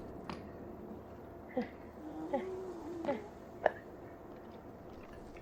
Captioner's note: scaredy noises